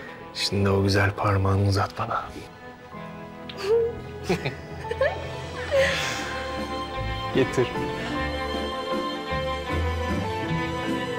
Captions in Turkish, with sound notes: Şimdi o güzel parmağını uzat bana. (Gülüyorlar) Getir.